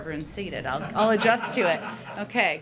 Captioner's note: laughter